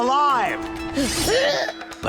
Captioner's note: groaning